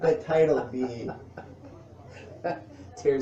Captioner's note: laughs